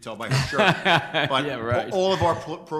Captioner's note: laughing